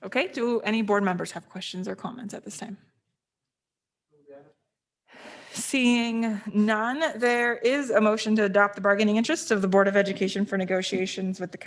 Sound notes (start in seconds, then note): 4.3 faintly speaking